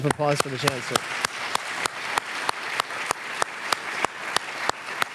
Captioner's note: audience applauding